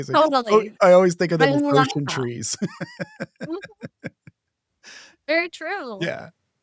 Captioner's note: laughs